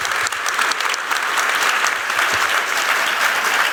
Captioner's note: audience applauds